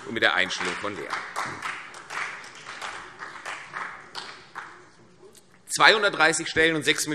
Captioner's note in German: Beifall CDU und BÜNDNIS 90/DIE GRÜNEN